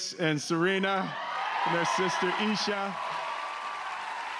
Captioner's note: cheers and applause